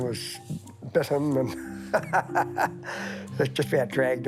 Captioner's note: laughs